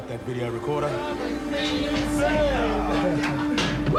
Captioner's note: Eddie and Fred call out excitedly; laughs